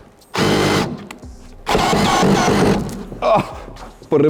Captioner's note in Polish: dźwięk wkrętarki